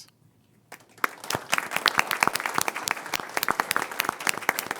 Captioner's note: crowd applauding